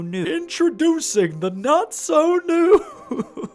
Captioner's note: laughs